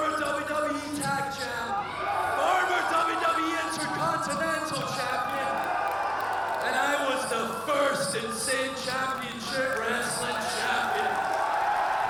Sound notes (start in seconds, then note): 6.0 crowd continues cheering